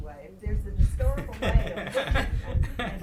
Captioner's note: laughing